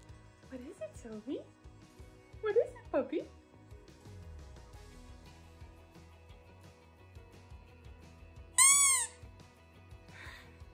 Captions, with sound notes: What is it, Sophie? What is it, puppy? *squeaker noise*